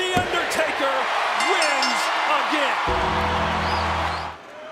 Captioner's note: bell dinging